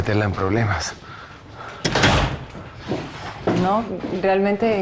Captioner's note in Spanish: Sonido al cerrar la puerta